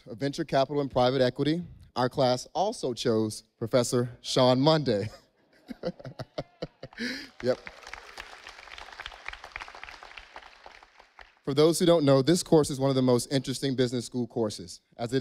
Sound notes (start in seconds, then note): 5.5 laughs; 8.9 audience applauding